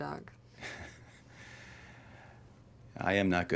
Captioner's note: Dr. Schwazer laughs